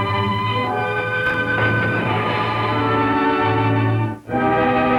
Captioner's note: water splashing